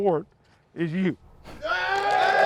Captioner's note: cheering